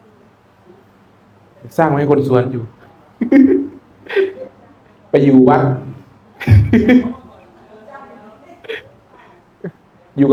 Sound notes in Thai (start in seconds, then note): 4.0 เสียงหัวเราะ